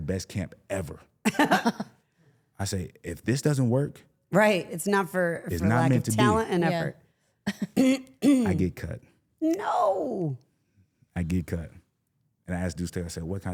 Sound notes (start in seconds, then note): 1.2 laugh